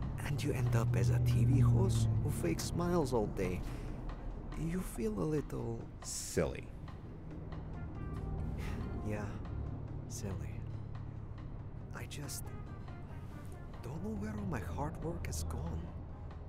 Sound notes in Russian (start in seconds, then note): 8.5 выдох